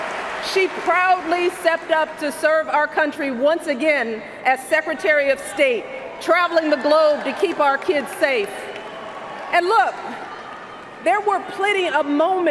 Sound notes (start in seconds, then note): 1.4 cheers and Applause